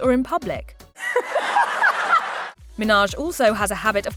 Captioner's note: laughing